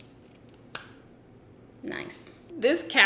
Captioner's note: cap clicks